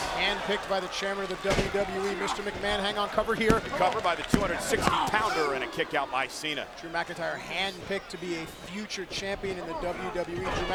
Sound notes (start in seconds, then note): 4.2 hands thudding